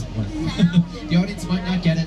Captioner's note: laughing